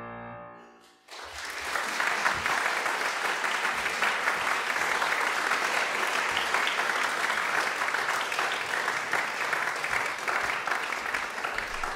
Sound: audience applauds

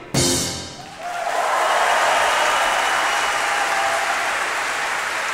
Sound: audience applauding

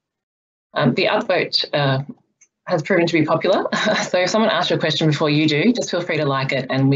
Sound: laughs

